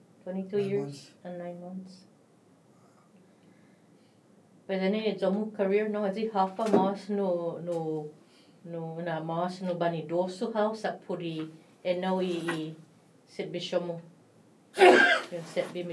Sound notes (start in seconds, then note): 14.7 sneezes .. apologies